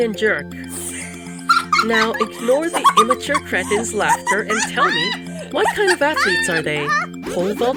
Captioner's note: hyena laughs